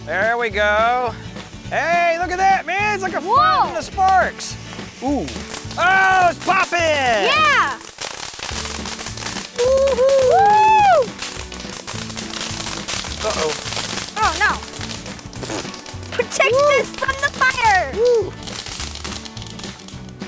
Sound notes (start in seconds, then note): 0.2 uplifting music; 5.7 firework crackles